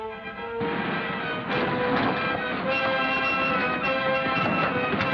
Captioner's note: car engines revving